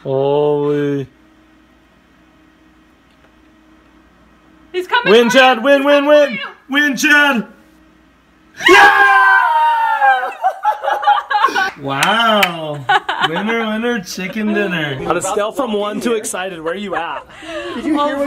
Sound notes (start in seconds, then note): 8.6 cheering